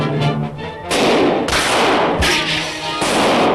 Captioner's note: gunshots